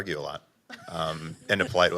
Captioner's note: laughs